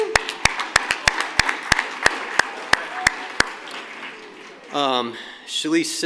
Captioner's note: applause